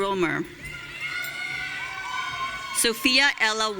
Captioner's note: audience cheering